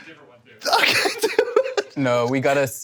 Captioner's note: laughing